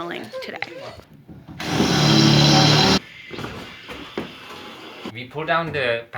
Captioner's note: construction sounds